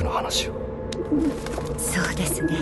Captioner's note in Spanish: arrullo de palóma, aleteo